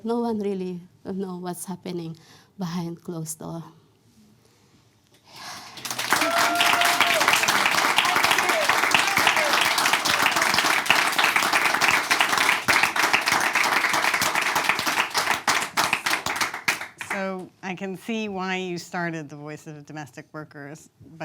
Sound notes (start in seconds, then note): 5.9 audience claps